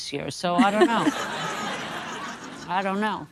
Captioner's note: audience laughing